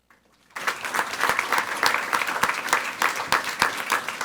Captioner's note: people clapping